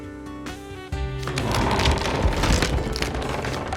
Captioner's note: wobble wobble